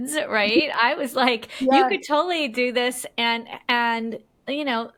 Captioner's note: laughs